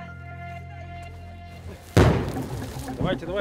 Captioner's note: gunshots